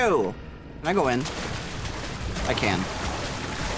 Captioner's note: angry splashing; splashing follows close behind